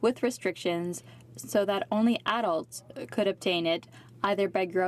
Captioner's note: speaking french